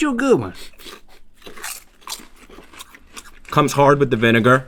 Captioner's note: crunching